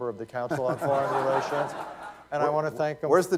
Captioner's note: laughter